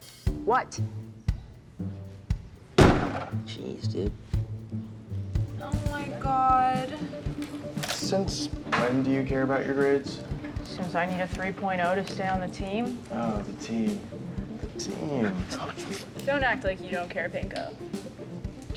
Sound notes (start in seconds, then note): 2.8 clay shots; 4.3 French